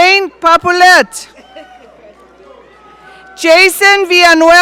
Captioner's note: audience cheering